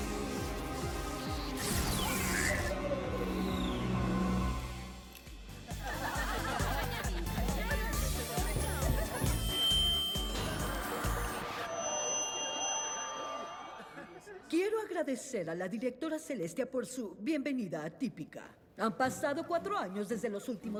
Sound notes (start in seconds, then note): 2.5 beeps; 8.1 tap tap tap; 8.5 feedback